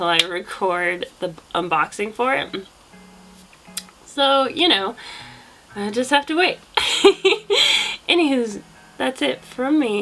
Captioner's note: laughs